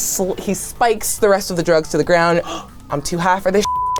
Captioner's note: gasps; beep